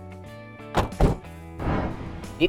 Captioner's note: doors thud